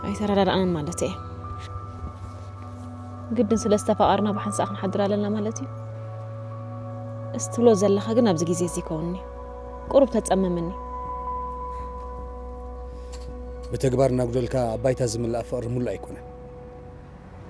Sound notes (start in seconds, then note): none